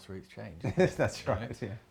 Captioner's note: laughs